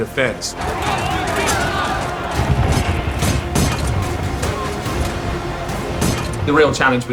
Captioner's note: people clamoring; machinery clattering